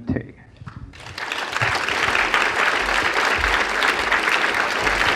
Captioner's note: applause